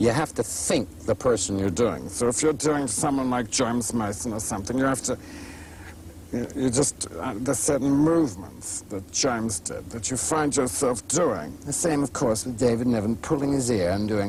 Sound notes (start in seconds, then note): 2.1 imitating James Mason; 11.8 imitating David Niven